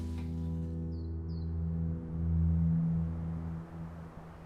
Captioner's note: birds chirping